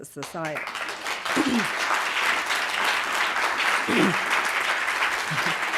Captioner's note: audience applauding